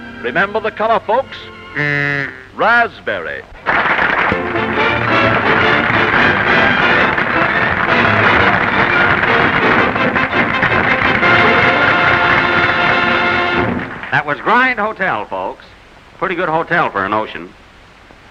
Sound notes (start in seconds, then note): 2.0 raspberry sound; 3.5 applause